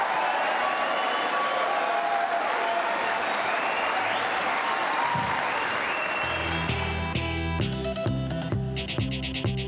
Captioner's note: cheering & Applause